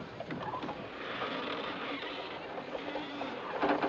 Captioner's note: Cordas rangendo